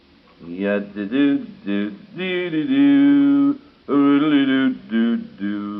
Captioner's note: humming